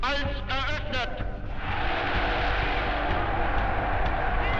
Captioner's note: cheering